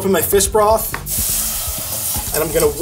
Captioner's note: pan sizzles